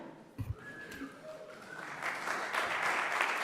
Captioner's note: cheers & applause